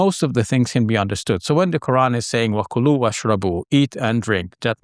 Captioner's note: speaking in Arabic